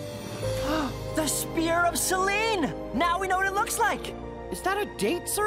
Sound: gasps

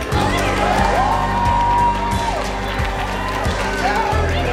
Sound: applause

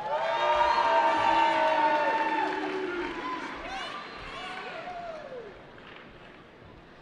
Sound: cheering

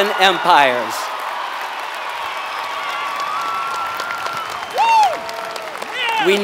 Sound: applause

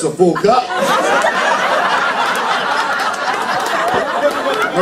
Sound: laughter

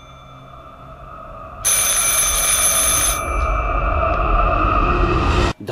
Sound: phone rings

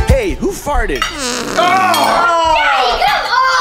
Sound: farts

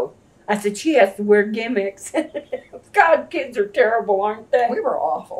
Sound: laughs

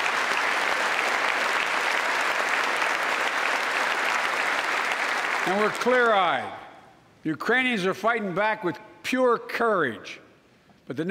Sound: applause

